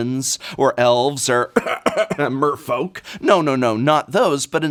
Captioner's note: cough cough cough